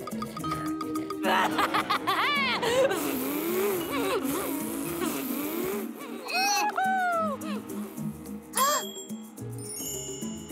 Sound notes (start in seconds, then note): 1.0 laughing; 8.2 gasping